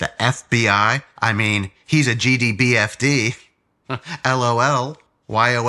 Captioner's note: chuckles